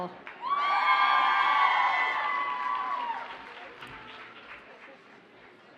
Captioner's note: audience cheers and applauds